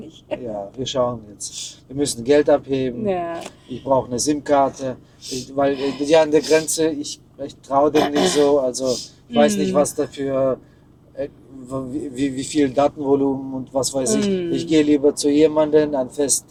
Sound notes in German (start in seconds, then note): 5.8 schnauben; 7.9 räuspern